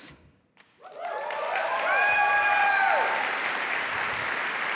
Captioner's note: applause